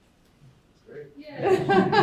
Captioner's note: laughter